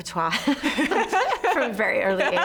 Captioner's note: laughing